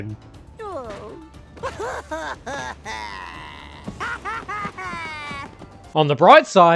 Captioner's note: sad Crash noises